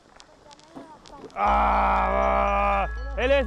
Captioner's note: groans